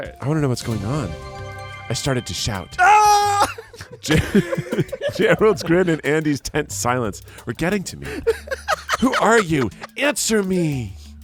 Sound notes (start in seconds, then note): 2.8 yells; 3.3 everyone laughs